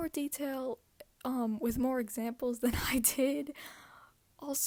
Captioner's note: giggles again